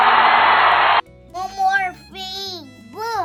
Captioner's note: a crowd cheers